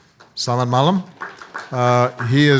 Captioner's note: speaking foreign language